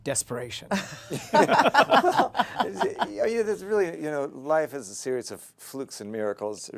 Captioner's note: laughter